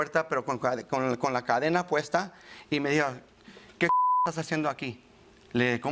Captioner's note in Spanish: Bip